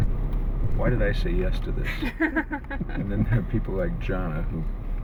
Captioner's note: all laugh